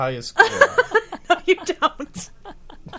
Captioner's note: group laughing